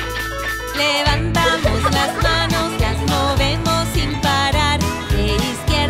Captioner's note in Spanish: Música alegre; Risas